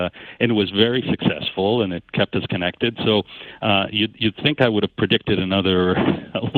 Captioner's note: laughing